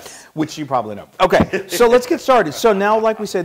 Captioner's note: laugh